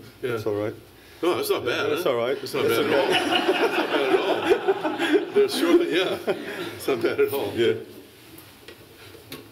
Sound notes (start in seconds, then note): 2.6 laughter